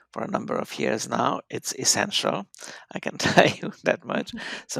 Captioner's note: laughs